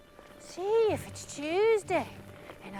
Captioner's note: mimicking irish accent